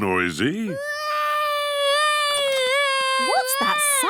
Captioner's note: baby wailing